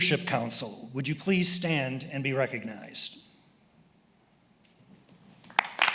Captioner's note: applauds